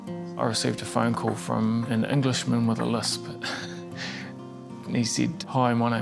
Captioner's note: chuckles